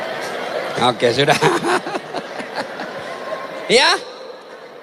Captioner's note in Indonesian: tertawa